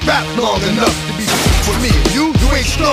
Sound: crashing

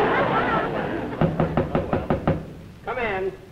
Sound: knocking

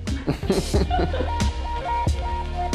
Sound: laughing; slow techno music

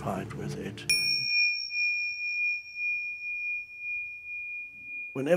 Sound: text chiming

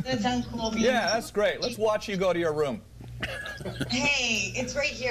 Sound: laughter

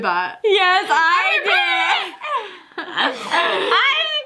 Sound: rapid trilling

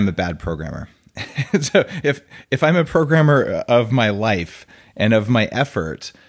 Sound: laughing

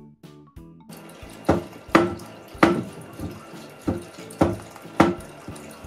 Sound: door thumps repeatedly

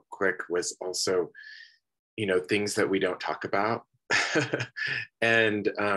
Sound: laughs

